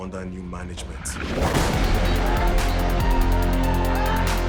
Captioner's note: gun shot